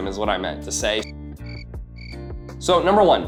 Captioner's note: cricket chirping